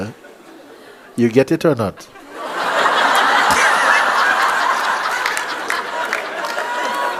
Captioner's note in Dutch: gelach